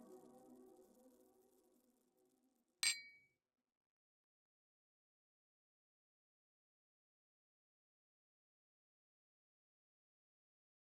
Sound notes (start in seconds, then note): 2.8 glasses clinking